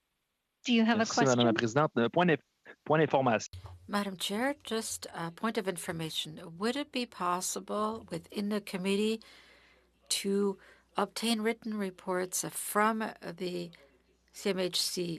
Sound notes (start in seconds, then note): 8.6 speaking French